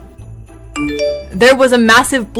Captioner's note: text notification